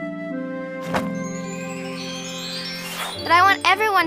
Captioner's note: bag thuds on ground; chimes tinkle